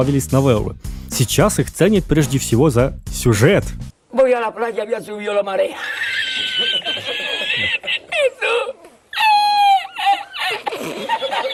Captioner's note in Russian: смех